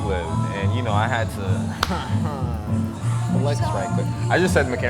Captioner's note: claps hands, laughs